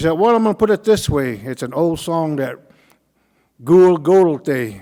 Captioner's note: speaking Cauijoga